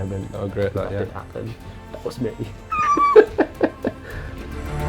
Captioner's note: laughs